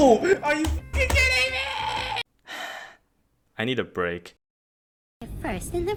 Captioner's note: sigh